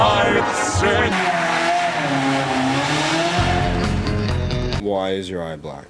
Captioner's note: car running noise